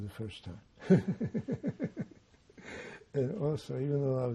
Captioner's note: laughing